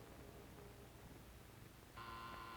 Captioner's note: buzzer